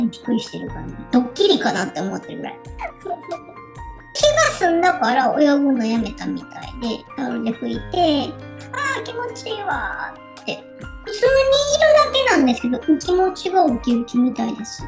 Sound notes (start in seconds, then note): 2.7 laughs